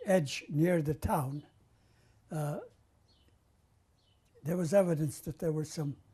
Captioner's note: pauses for 3 seconds